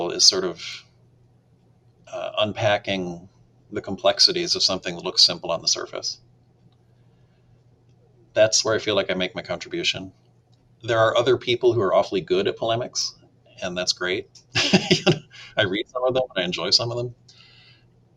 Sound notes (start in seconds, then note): 14.5 laughs